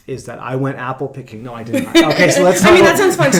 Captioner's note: chuckles